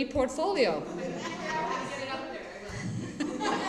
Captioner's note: laughter